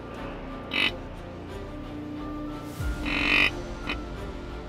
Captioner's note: pensive music; deer call grunting